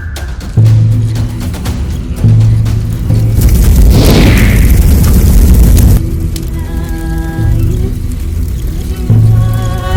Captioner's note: SFX: Ambient woods at night sounds